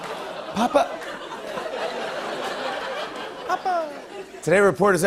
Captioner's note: laughter